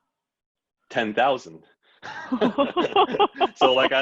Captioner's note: laughter